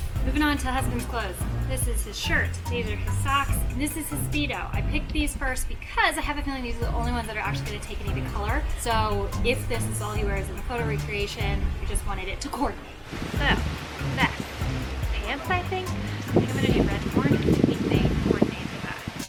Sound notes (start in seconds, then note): 16.0 wind blows